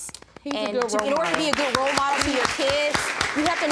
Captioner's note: audience applauding